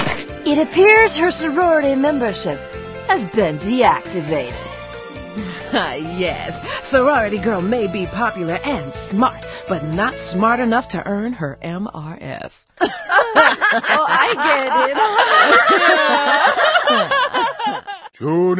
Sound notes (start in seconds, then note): 12.8 the Supermodels laugh; 15.0 they continue laughing